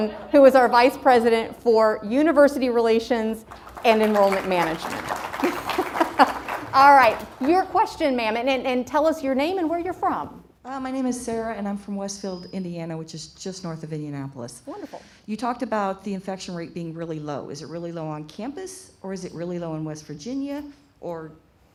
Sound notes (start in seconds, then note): 3.4 crowd applauds; 5.4 laughs